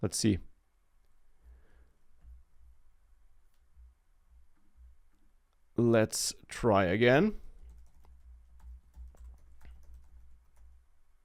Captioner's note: typing sounds